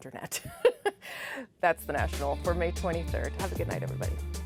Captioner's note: laughter